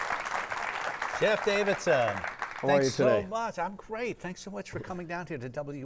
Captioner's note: audience applauding